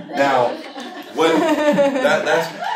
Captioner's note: laughter